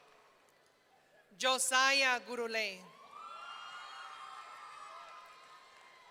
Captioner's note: audience cheering